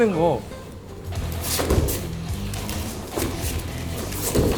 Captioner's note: two friends roughhousing